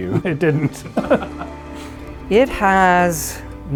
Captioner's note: both laughing